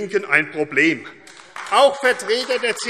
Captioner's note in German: Beifall AfD